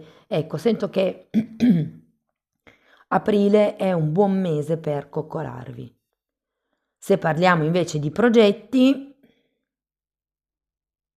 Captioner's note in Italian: schiarire la voce